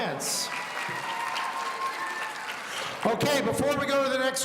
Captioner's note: audience applauding